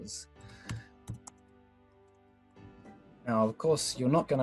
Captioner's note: typing